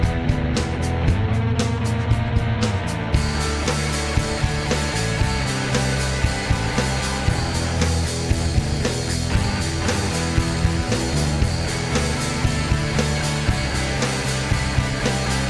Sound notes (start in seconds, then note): none